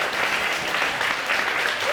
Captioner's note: audience applauding